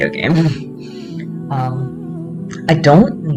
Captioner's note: giggle